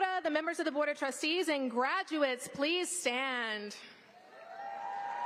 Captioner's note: applause